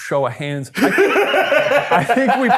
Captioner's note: laughing